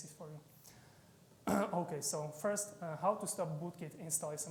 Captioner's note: clears throat